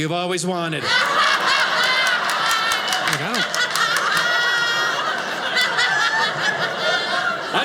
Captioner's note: audience laughing